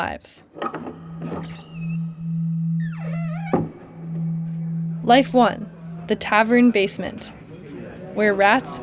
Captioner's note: soundbite of door opening